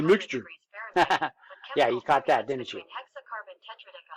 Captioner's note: chuckles